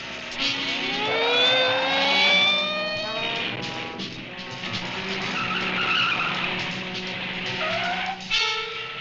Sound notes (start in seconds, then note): 0.9 car engine running; 1.9 tires squealing